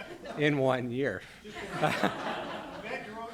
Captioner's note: laughter